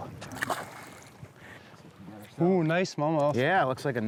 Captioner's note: water splashes